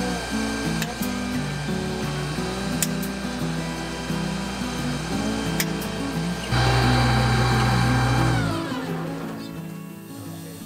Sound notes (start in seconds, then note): 0.9 nail gun; 7.5 air compressor shuts down